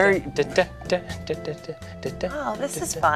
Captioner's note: muttering elevator music